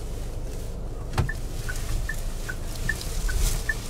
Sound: rustling

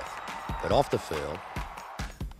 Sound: crowd cheering

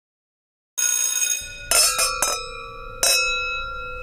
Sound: bell ringing

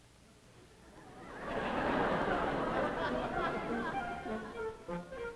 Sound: audience laughs

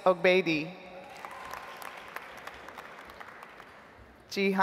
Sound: audience applauds

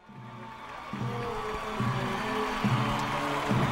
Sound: clapping and cheering

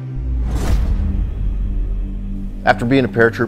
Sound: dramatic sound

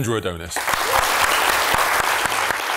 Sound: applause

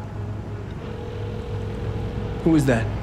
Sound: phone rings

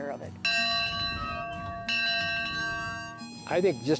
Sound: bell dings

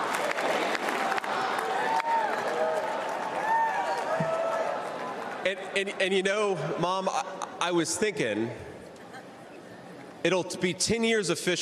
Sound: applause

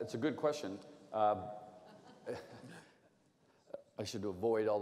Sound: laughter

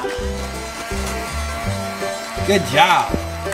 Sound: fan engine humming

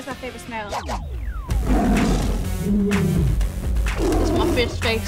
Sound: roaring

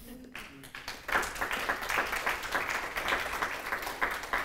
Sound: applause

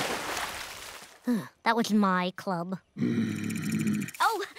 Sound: sighs; growling

